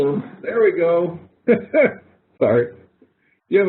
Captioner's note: laughter